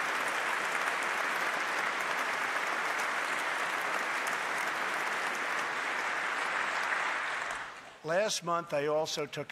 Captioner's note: applause